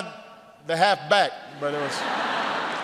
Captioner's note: laughter